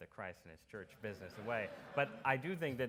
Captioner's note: audience laughs